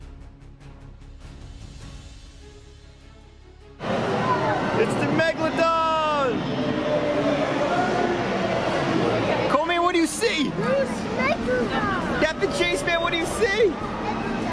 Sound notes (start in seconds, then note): 0.0 dramatic music; 3.2 dinosaur roars; 8.6 dinosaur roars